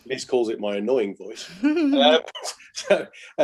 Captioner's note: giggles